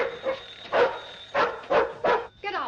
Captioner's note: dog barks